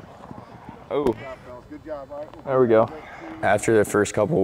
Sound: chatter

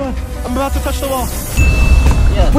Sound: dinging sound

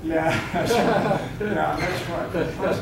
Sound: audience laughing

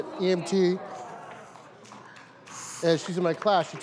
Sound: crowd coos and claps

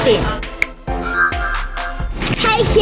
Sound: magical chiming

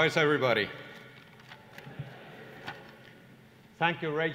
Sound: laughter

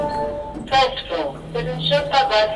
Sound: speaking in Russian

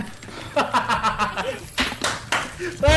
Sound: laugh

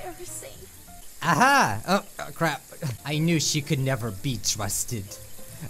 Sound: haha

